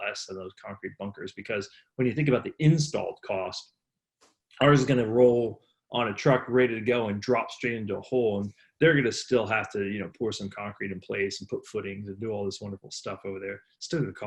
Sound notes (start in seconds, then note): none